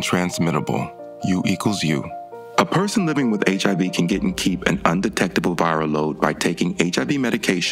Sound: voiceover

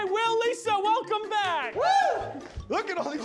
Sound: cheers

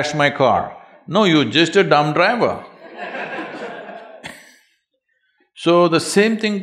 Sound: laughter

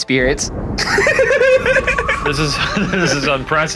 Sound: giggling

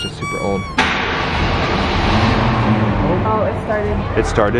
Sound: car engine revs

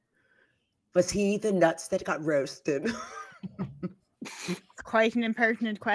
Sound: laughing

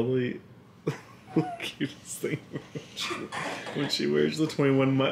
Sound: giggling

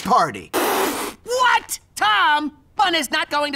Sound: splutters

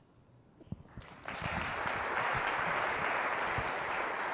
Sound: applause

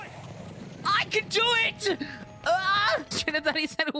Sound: yell

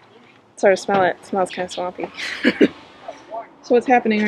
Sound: laughing

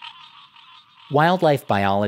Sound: frog calls

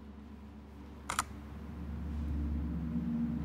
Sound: camera shutter; mysterious music

